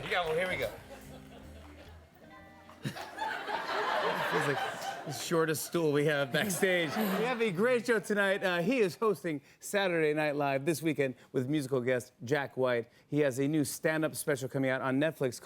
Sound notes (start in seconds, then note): 2.8 laughter